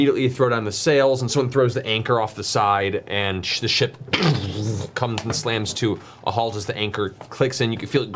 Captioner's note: crunching